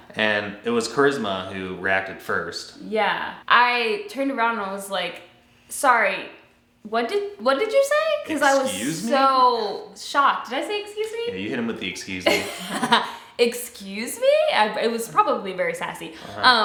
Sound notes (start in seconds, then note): 12.3 laughing